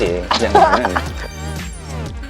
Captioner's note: laughter